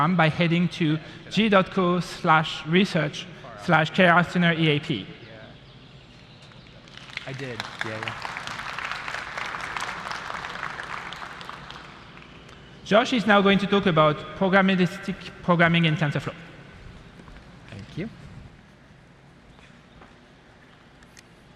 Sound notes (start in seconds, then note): 6.8 applause